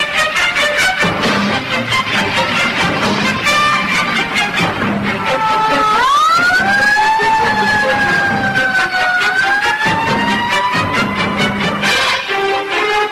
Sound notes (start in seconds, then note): 6.2 Sirens sound on the Sierra Madre rescue truck